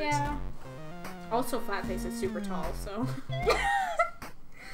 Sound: Blueheart laughs

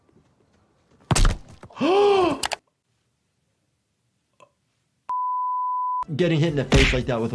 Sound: ball thuds; gasps

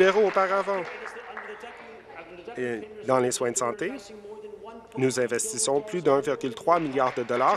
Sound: applause

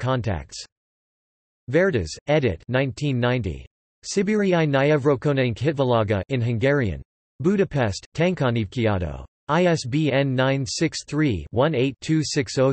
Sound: in Hungarian

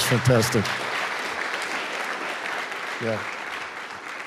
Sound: audience applauds

